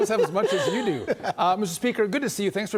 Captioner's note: laughter